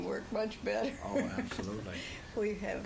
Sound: laughs

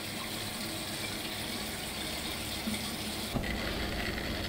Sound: faucet running; metal scraping stubble

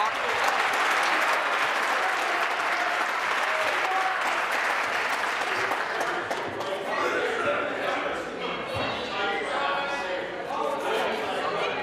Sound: applause

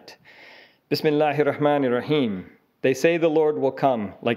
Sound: speaking a foreign language

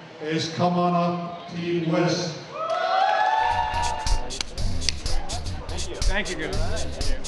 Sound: cheers, applause

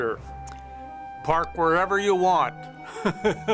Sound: laughs

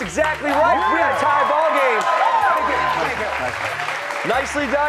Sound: cheers and applause

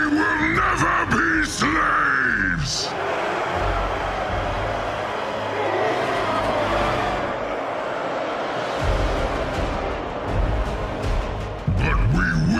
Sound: cheers

